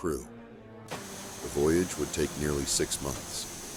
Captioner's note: steam hissing